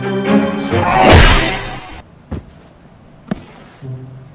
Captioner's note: fist punching